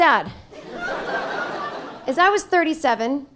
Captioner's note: audience laughing